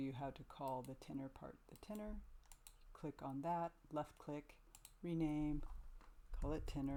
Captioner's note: left click